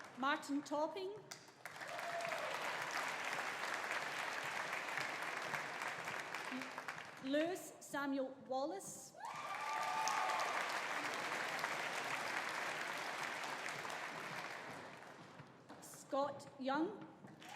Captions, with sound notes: Martin Topping. (AUDIENCE APPLAUDING) (AUDIENCE CHEERING) Lewis Samuel Wallace. (AUDIENCE APPLAUDING) (AUDIENCE CHEERING) Scott Young.